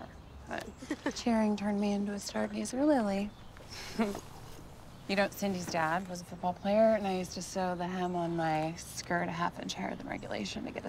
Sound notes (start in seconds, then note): 3.7 chuckles